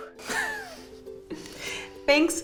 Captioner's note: laughing